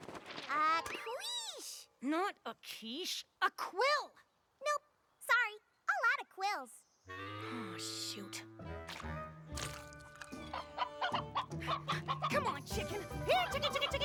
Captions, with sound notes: AHA! A QUICHE. NOT A QUICHE. A QUILL! NOPE, SORRY. ALL OUT OF QUILLS. AW, SHOOT. [ CLUCKING ] COME ON, CHICKEN!